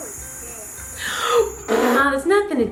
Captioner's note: gasps in amusement